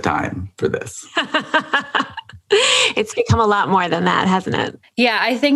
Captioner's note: laughs